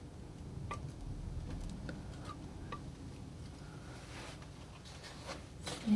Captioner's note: tapping